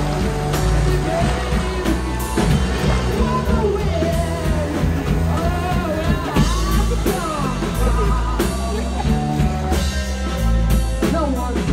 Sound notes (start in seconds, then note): 5.9 laughing